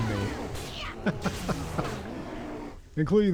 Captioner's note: laughs